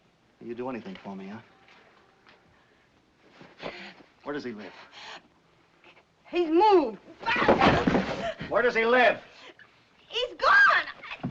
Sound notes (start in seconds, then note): 7.3 groans